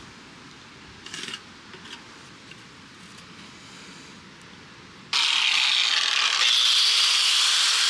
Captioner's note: metal grinding